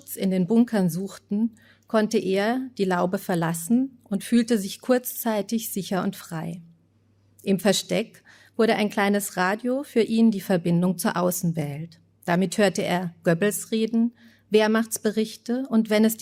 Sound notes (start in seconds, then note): none